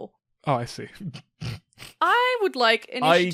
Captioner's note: snickers